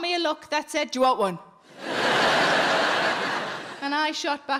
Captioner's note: audience laughing